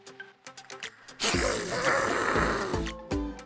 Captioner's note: blows nose